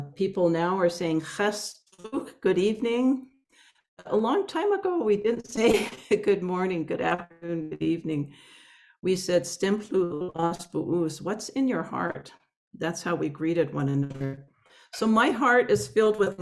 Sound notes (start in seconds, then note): 9.1 Salish language spoken